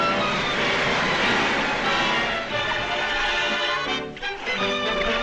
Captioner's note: light dramatic music; water splashing; triumphant music